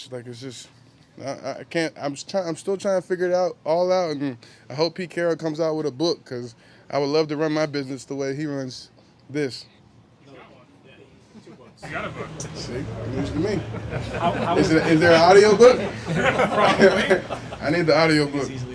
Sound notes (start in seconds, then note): 12.9 laughter